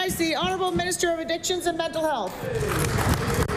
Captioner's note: applause